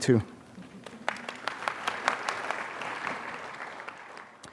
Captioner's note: applause